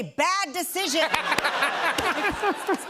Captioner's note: laughter